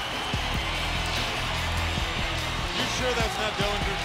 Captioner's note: crowd cheering